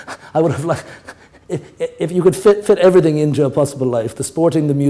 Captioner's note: laughter